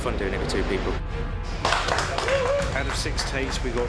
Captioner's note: crew applauds